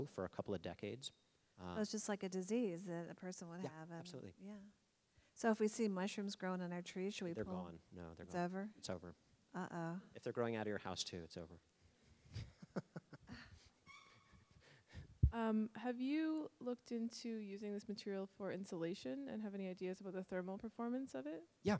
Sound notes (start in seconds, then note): 12.3 laughing